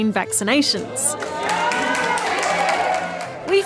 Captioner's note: cheering